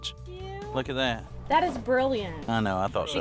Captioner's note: exclaims